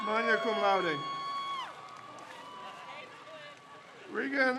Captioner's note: crowd cheers